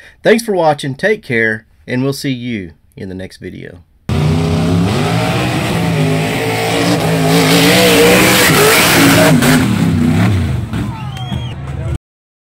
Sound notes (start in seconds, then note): 4.1 truck engine roaring; 10.7 cheer